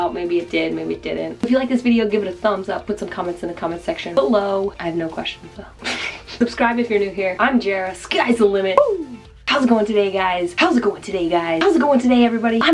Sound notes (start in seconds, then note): 5.8 laughs